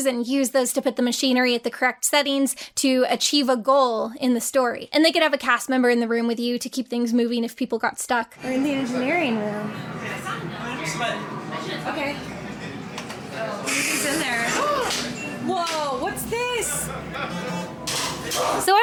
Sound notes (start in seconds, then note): 14.5 gasps; 17.1 machines beeping